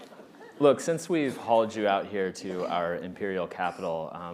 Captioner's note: laughter